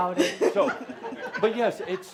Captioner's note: laughter